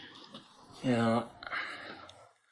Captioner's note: none